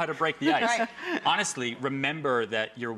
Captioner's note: woman laughing